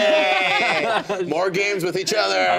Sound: group laughing

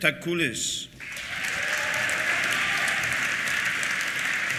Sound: applause; cheers

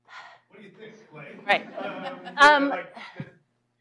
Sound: laughter

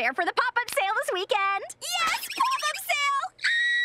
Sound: screaming

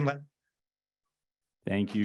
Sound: muted

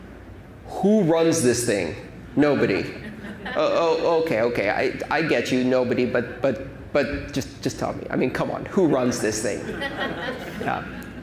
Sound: laughter

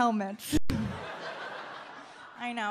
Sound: audience laughs

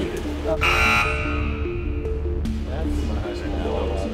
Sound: buzz

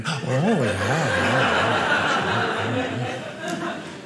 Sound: audience laughing

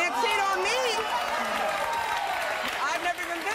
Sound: audience applause

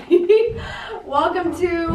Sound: giggles

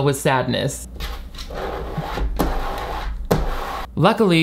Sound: scraping on desk

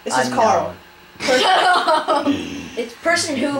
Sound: snickering; laughing

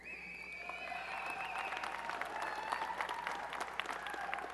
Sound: applause and cheering

